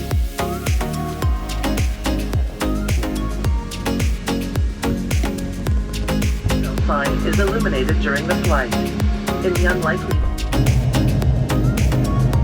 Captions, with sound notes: [PA announcement] ... is eliminated during the flight. In the unlikely...